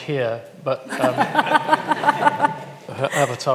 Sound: all laugh

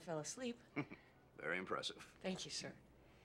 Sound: chuckles

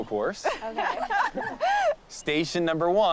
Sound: laughter

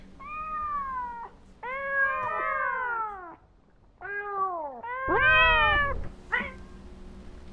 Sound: meowing

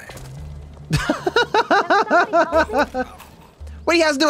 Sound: laughs

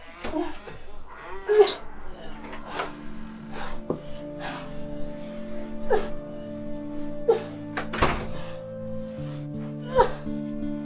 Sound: Terry breathes heavily, grunting in pain

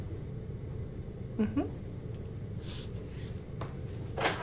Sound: humming in agreement

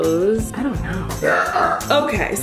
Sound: burping

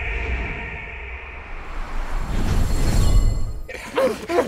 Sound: echo; shiny sound; grunting

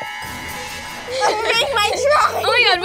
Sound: laughing

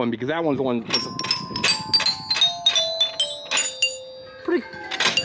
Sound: chimes ring

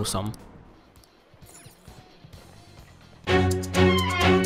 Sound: sounds from the game

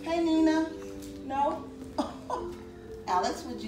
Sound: laughs

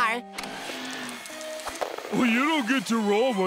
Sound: none

